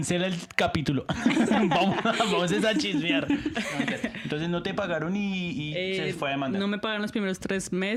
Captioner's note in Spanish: risas